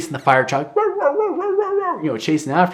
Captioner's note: barking